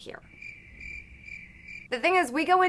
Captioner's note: crickets chirping